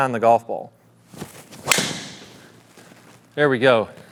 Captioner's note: club thwacks